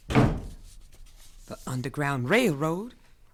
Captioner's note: door closes